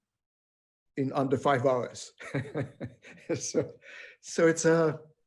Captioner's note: laughing